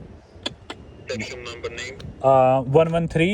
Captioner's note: intercom